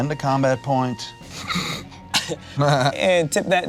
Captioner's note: laughs